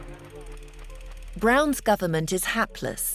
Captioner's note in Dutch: projector zoemt